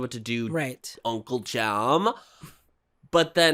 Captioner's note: valley Girl accent